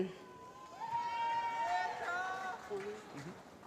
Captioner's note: applause